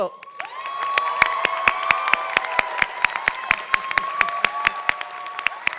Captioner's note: applause and cheering